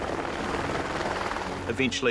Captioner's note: helicopters whirring